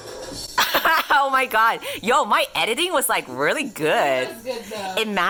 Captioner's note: laughing